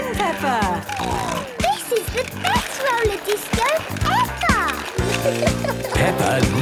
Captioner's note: snorting